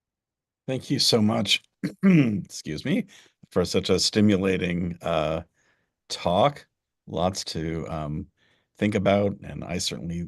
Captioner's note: cough